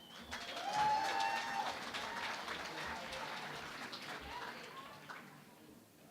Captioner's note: cheering and Applause